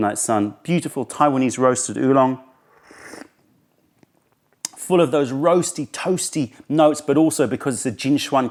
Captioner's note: sips tea